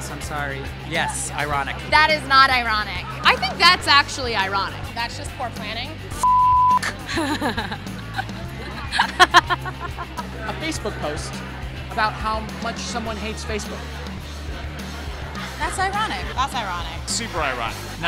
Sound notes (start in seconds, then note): 6.2 beep; 6.8 lady laughs; 13.8 upbeat rock music